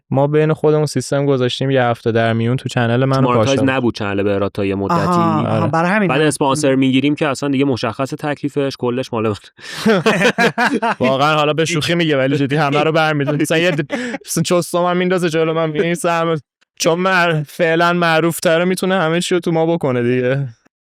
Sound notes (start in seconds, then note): 9.7 laughs